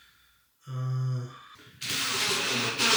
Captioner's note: drill whirring